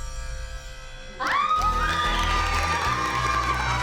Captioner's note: screaming and clapping